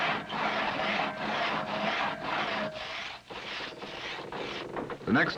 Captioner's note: loud sawing